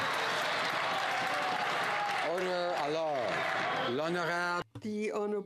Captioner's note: some Applause